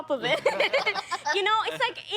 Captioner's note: laughing